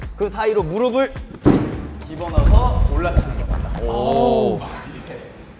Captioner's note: thud / Clunk / Bump